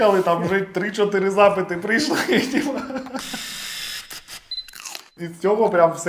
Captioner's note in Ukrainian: сміх